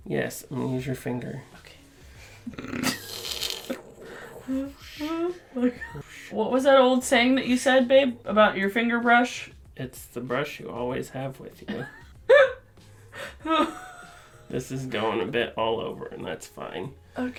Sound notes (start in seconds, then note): 2.1 whispers; 3.4 laughter; 11.6 laughter